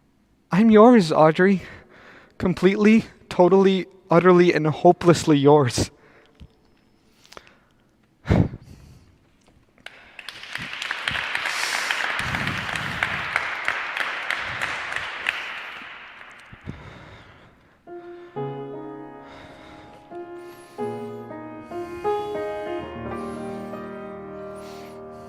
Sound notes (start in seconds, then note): 9.8 applause; 17.8 piano Music